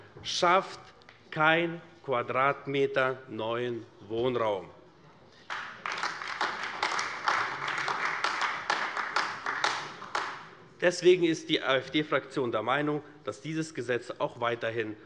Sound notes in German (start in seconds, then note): 5.4 Beifall AfD